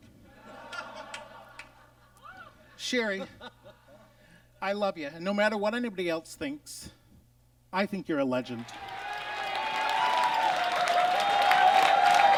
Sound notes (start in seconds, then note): 0.4 audience laughs; 8.6 audience cheers